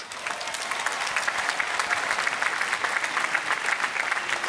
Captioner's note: applause